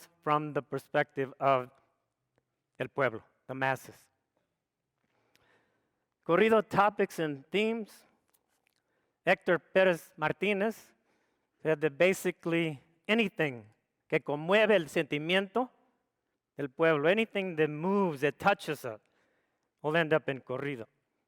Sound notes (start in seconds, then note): 14.4 speaks foreign language